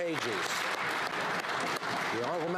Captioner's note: some Applause